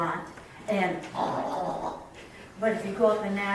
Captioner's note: excited sounds